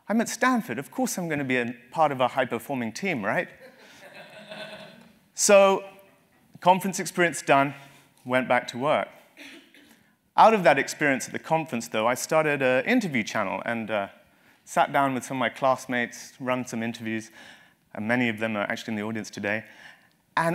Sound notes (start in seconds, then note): 3.6 laugh